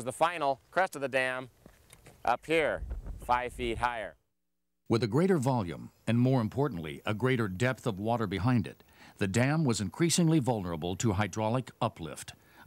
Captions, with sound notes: which was the final crest of the dam, up here, five feet higher. - [Voiceover] With a greater volume and more importantly a greater depth of water behind it, the dam was increasingly vulnerable to hydraulic uplift